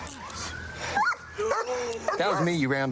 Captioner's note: dog barks